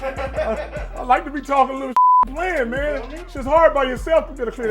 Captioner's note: beep